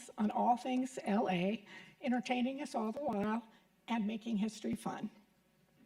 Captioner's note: none